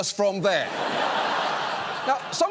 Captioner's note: studio audience laughs